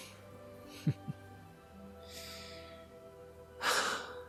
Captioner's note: patriot sniffs and sighs